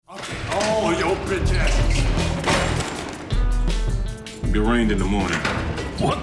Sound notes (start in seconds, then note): 0.1 jail door slams